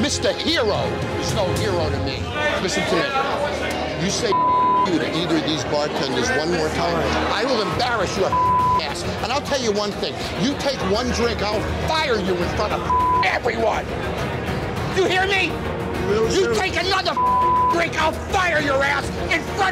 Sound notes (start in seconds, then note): 4.3 beep; 8.3 beep; 12.8 beep; 17.1 beep